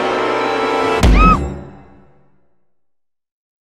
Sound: music intensifies; mom screams

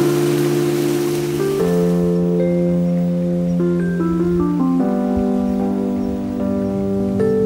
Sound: drone

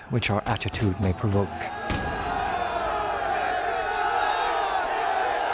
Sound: cheering

